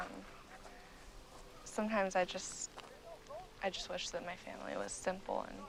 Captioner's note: people chattering